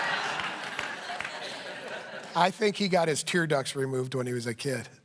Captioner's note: laughter